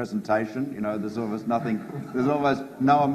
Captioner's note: audience laughs